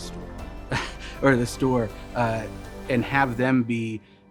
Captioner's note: chuckles